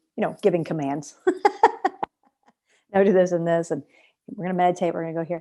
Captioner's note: laughter